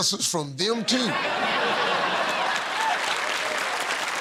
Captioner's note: laughter; cheers and applause